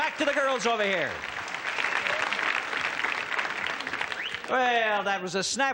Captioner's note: audience cheers